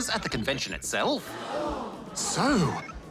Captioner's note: audience gasps